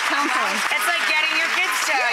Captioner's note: audience applauds